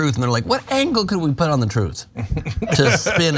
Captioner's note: laugh